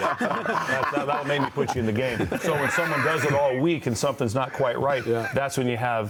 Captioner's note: laughter